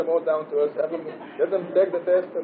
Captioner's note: Gülüşme